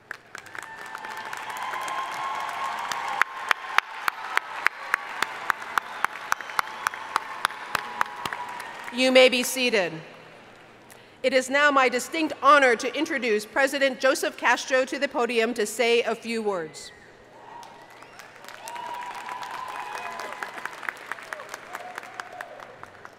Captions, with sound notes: (audience cheering and applauding) You may be seated. It is now my distinct honor to introduce President Joseph Castro to the podium to say a few words. (audience cheering and applauding)